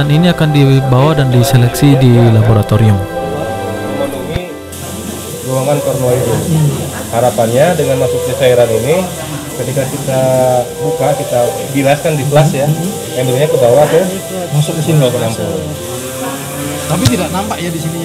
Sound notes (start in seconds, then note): 4.1 people sounds